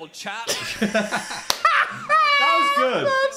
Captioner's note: both laughing